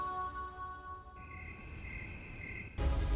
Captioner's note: crickets chirping